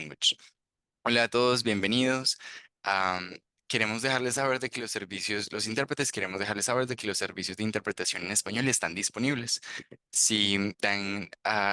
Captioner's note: speaking Spanish